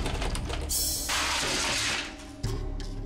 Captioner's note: crash